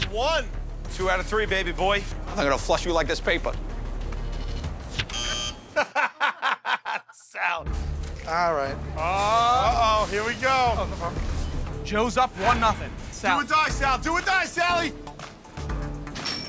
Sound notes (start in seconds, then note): 5.0 buzzer; 5.7 laughs